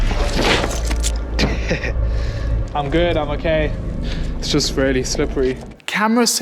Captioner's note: chuckles